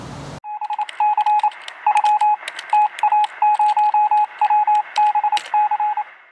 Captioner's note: morse code beeping; keyboard typing